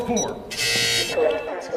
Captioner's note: incorrect passcode buzz